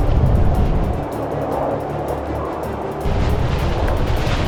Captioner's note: dramatic music; wind whooshing